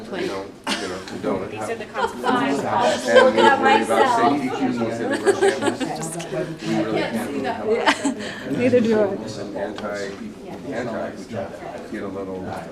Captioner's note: laughter